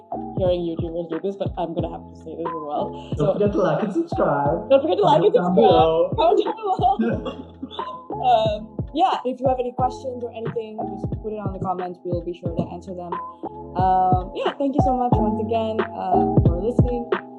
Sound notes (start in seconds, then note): 5.0 both, laughing